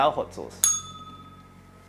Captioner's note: bell rings